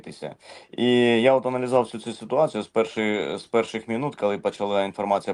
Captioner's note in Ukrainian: сопіння